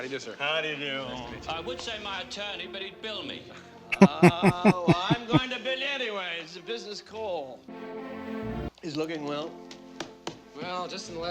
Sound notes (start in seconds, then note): 3.9 laughing